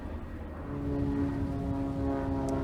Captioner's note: airplane sound